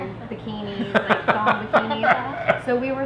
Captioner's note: laughing